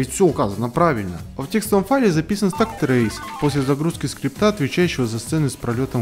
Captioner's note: Jackpot sound effect